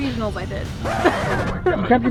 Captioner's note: record scratch